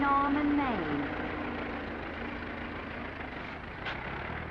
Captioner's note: engine rumbling